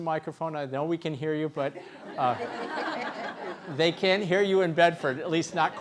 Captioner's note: laughs